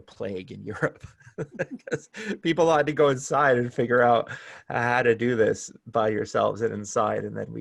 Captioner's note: laughter